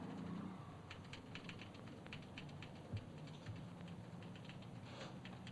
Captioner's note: typewriter chattering